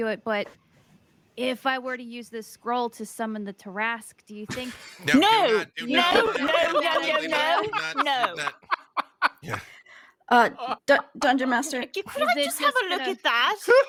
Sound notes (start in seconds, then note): 7.6 laughing; 12.8 murmurs